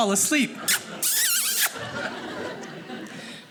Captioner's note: kissing sound